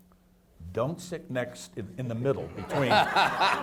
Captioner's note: audience laughs